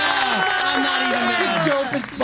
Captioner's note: all cheering